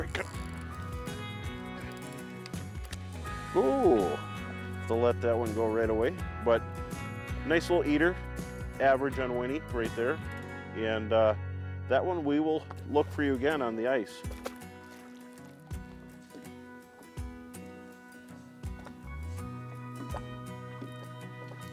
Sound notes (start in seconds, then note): 14.7 water splashing; 16.1 upbeat music continues